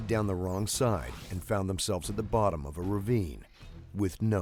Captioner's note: voiceover